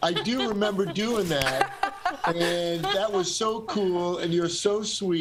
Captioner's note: laughter